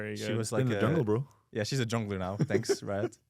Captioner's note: laughs